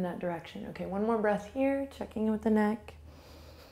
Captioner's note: exhales; inhales